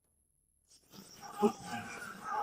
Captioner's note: grunts